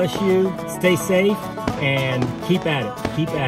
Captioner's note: fireworks popping